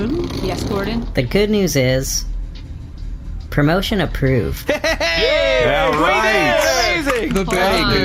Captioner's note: happily